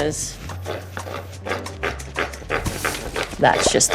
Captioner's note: stick grinding